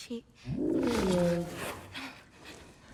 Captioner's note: roar